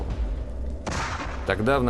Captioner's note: sound of gunfire